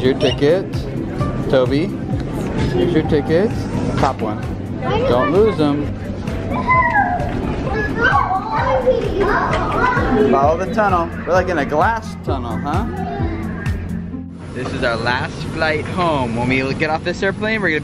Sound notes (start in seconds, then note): 6.3 yelling